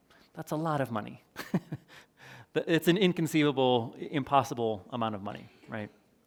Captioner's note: chuckles